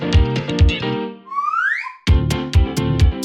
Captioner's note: whistle; upbeat piano music